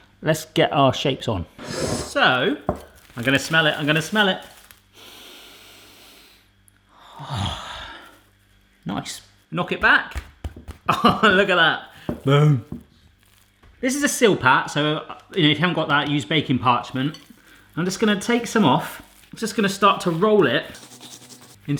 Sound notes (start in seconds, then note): 4.9 inhales deeply; 6.9 exhales; 10.8 laughs